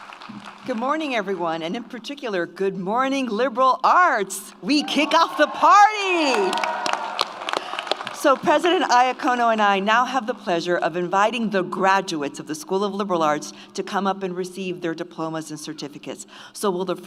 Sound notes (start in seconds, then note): 6.0 audience applauds; 6.6 audience cheers